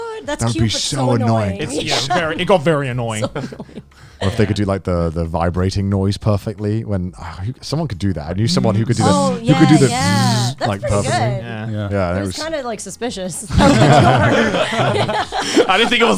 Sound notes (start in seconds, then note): 8.5 vocalized buzzing; 13.4 all laughing